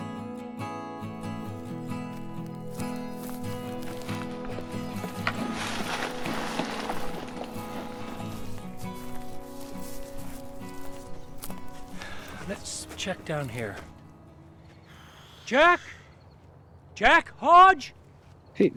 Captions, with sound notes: [footsteps] Let's check down here. Jack! Jack Hodge!